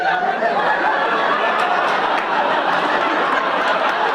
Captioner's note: audience laughing